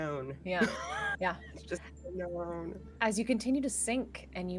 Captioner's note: laughs